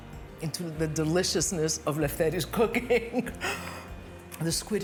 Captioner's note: chuckles